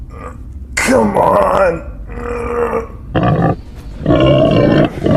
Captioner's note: grunting